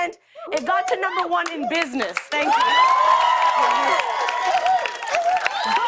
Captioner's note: cheers and applause